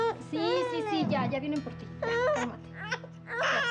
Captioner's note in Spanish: llanto de la bebé; llanto de la bebé